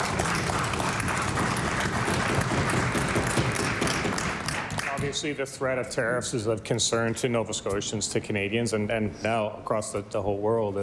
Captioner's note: cheering/Applause